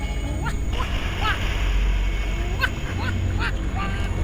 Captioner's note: cynical laughter